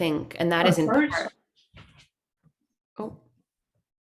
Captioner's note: off mike